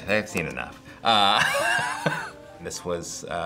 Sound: laughs

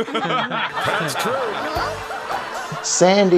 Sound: laughter

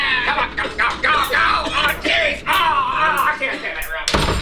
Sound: screaming; hiphop music

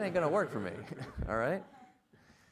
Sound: everybody laughs

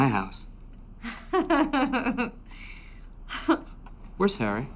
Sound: woman laughs

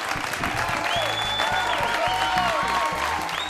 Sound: cheers and applause

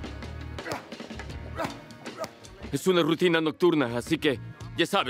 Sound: gruñidos

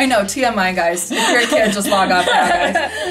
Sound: laughs

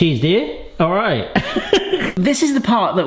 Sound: laughs

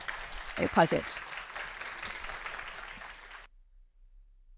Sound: applause

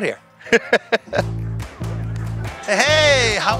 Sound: laughing

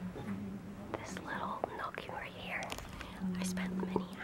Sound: whispering

